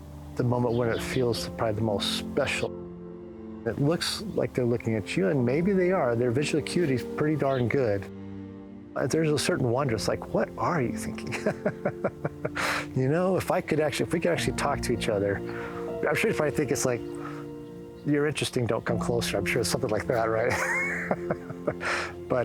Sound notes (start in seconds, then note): 11.2 laughter